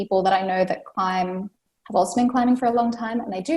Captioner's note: none